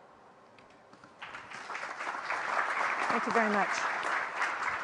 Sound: applause

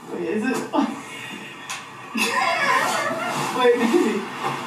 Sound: both laughing

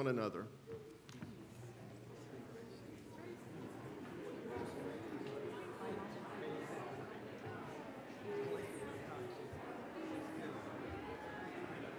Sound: general chatter as members greet each other across the aisle

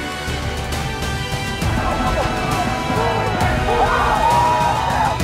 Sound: cheering

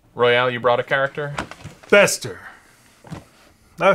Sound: none

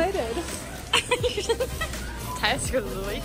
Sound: laughing

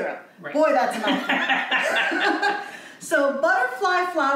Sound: laughs

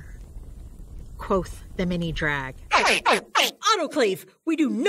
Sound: screech

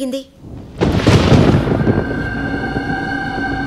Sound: thunder rumbling

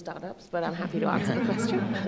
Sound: laughing

